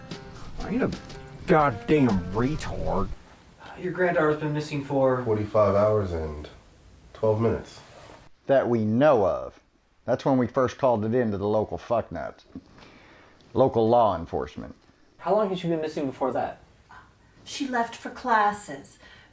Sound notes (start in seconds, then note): 13.0 scolding tone